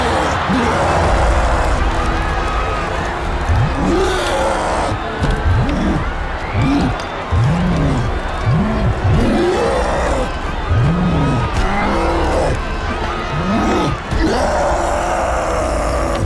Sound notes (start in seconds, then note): 0.2 roaring; 4.0 crowd cheering and shouting